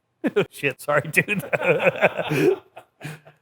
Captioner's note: laughing